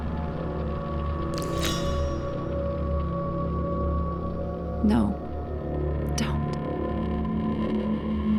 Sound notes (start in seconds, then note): 1.3 clank of the pitchfork